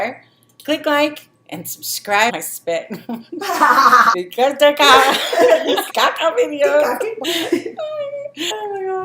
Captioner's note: laughing